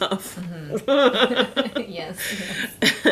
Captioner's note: laughing